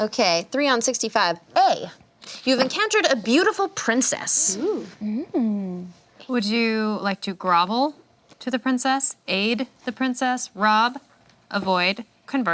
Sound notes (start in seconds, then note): none